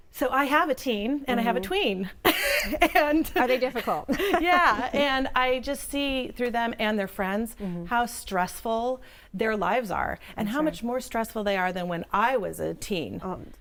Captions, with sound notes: I have a teen and I have a tween (laugh) and... It's difficult. Yeah and I just see through them and their friends how stressful their lives are and how much more stressful they are than when I was a teen.